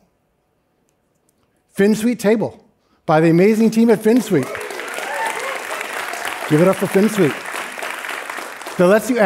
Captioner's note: applause